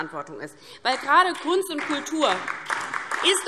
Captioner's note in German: Beifall DIE LINKE und SPD